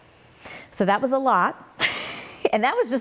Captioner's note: laughing